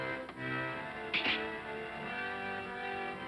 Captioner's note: razor clatters down